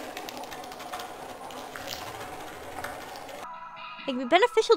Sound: scratchy slug noises and creaking wood

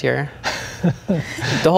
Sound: laughing

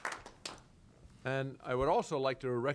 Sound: applause

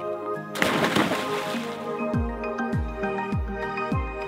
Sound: loud splash; light instrumental music

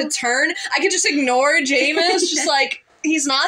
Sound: laugh

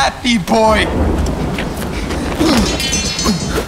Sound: thunder; metal rattling

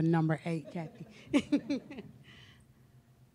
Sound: laughter

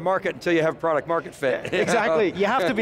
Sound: laughing

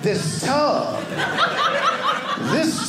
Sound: audience laughing

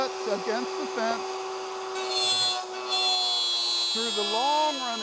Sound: saw revving

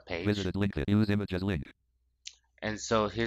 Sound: screen reader voice

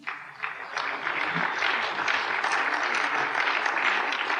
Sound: applause

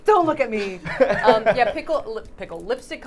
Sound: laughing

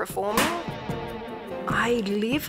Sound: balloon pops

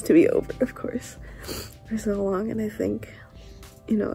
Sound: sniff

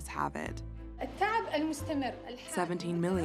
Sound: speaking Arabic

